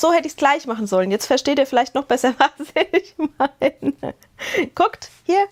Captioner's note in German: Gelächter